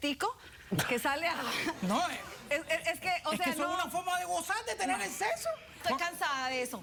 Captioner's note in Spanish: risas